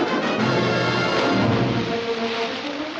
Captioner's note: splashing